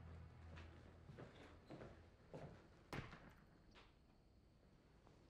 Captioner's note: footsteps approaching